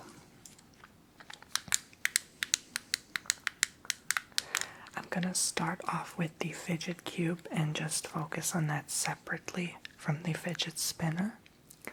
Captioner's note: clicky sounds